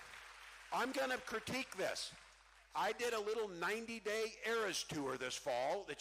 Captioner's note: cheering